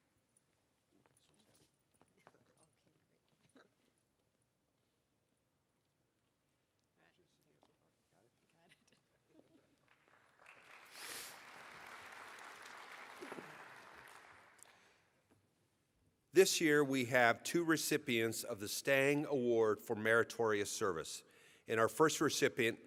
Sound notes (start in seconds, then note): 3.3 applause